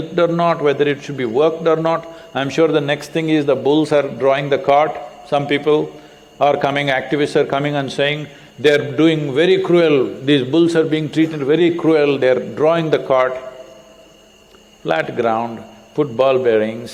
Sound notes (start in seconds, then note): none